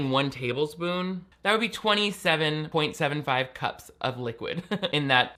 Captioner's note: laughs